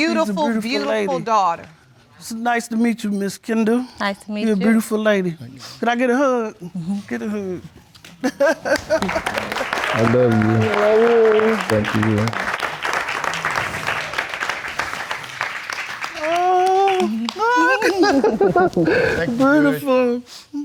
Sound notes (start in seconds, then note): 8.2 chuckles; 16.3 chuckles